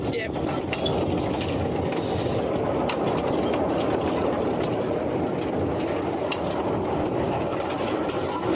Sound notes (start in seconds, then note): 0.1 rattling; 0.4 clunking noise